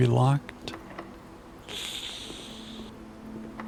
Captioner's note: sighs